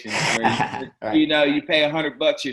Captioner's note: laughs